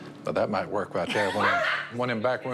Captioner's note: laughter